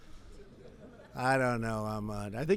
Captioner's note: laughter